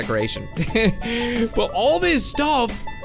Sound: chuckles

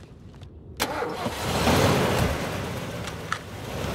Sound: truck engine turns on and peels off

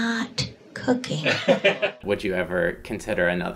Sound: laughter

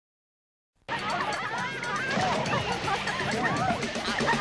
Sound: teens Jumping, Splashing and Laughing!

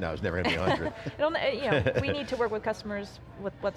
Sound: laughs

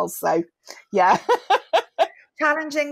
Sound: laughs

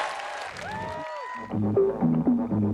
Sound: cheering

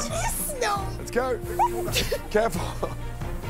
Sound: laughter

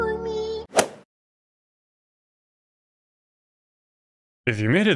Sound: golf ball hit sound

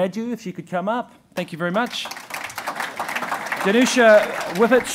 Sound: audience applauding

